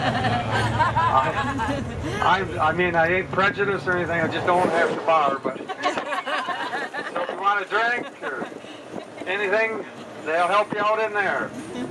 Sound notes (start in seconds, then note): 4.6 more laughter